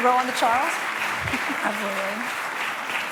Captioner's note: applause